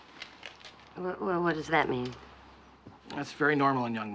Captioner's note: stutters